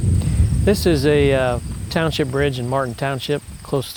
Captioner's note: voiceover